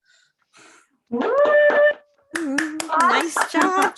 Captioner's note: applause